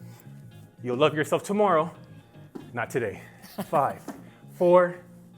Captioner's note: laughing